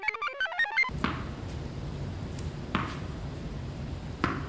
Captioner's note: computer chirps; ball thuds